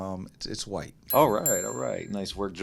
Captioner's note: bell rings